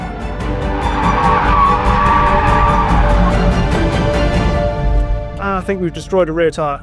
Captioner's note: dramatic music continues; vehicle revs